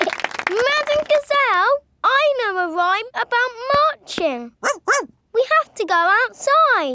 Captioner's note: laughing and clapping; barks